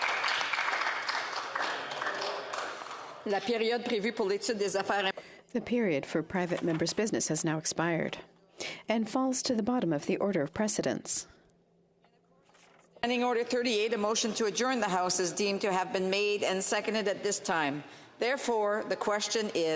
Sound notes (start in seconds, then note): 3.4 some Applause; 8.5 speaking French